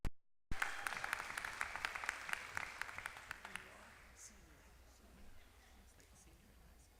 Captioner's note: applause